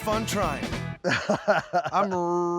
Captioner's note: laughing